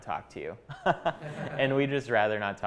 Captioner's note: chuckling